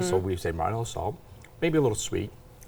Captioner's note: none